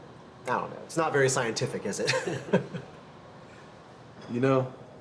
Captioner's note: laughs